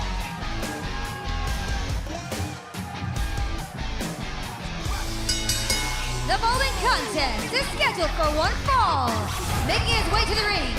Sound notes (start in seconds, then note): 0.0 crowd cheering; 5.1 bell ringing